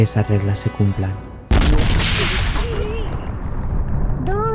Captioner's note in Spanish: explosión